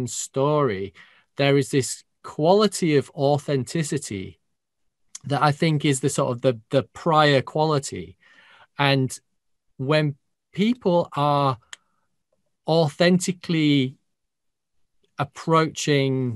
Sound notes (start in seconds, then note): none